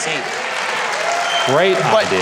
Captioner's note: audience cheers